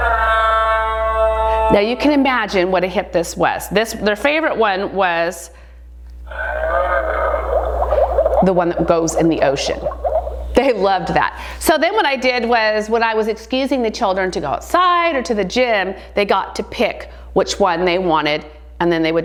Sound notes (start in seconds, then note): 6.3 underwater dinosaur noise